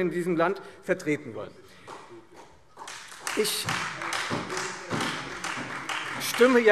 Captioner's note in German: Beifall Freie Demokraten und vereinzelt SPD